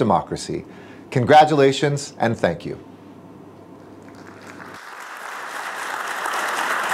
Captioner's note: applause